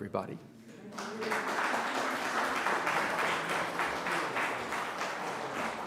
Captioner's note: audience applauding